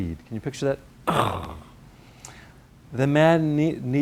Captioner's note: small explosion sound